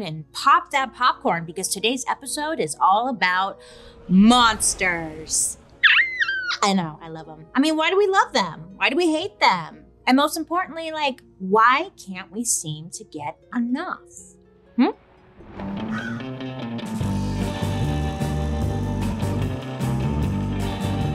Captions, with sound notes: and pop that popcorn because today's episode is all about monsters! (screeches) I know, I love them. I mean, why do we love them? Why do we hate them? And most importantly, like, why can't we seem to get enough? Hm? (thunder crashing) (bird cawing) (upbeat mysterious rock music)